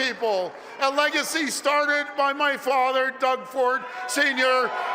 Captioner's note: cheering